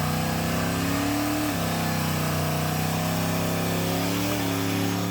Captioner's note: car engine revving